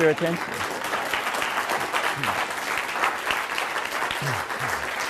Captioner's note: applause